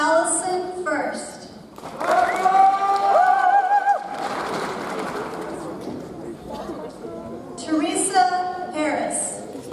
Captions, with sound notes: Allison Fuerst. (audience cheers) (audience applauds) Therese Arace.